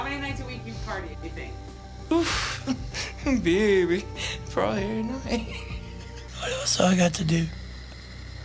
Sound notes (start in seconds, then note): 5.5 laughs